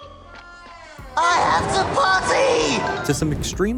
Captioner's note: shouting